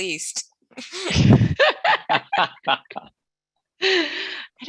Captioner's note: all laughing